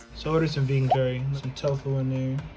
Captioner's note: bloop